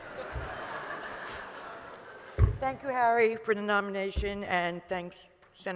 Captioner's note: laughter